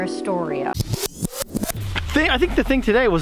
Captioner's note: scenes whooshing